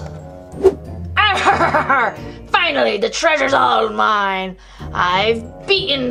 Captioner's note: laughs